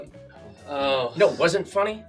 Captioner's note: sighs